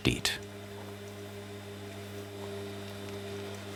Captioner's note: hum